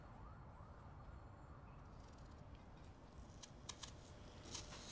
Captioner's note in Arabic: صافرة الإنذار البعيدة تبكي